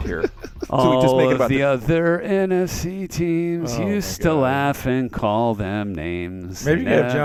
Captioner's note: laughs